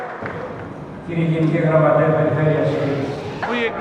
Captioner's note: speaking Greek